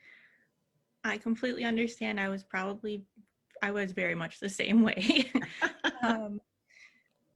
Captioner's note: giggling